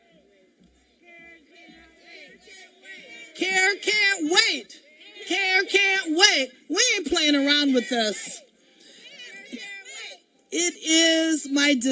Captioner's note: cheering